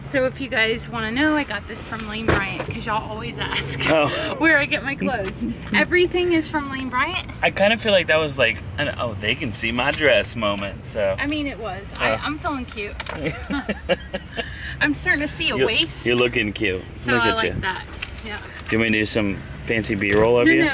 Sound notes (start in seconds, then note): 13.1 laughing